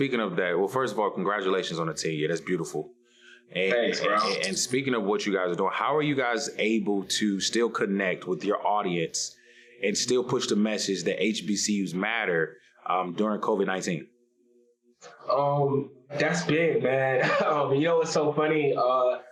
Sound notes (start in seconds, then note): 17.1 laughs